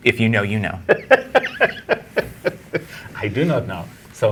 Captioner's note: guy laughing